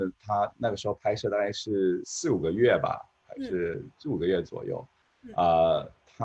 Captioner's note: speaking in foreign language